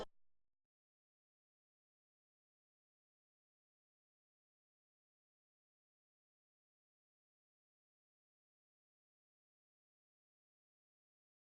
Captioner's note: silence